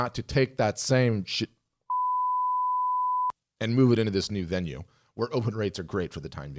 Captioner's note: beep